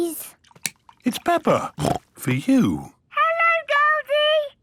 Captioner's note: snorts